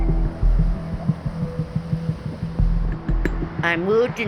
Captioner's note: cars wooshing